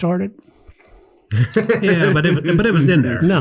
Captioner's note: laughs